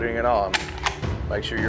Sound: gun cranking

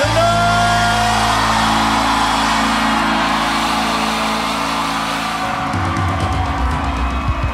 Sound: applause

